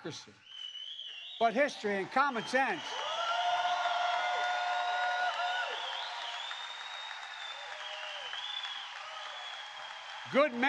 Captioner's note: applause